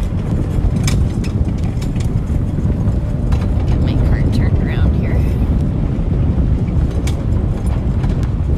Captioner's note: cart Clattering